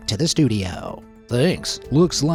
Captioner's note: in a news anchor voice